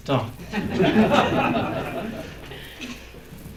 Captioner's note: laughter